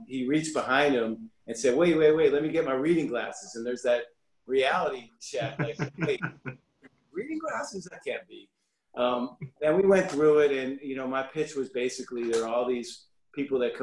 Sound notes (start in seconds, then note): 5.4 laughs